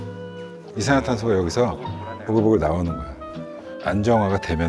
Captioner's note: carbon-dioxide coming out